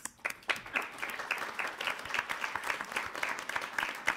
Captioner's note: applauding